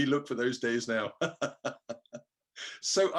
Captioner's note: laughs